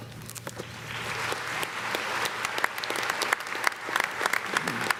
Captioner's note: audience clapping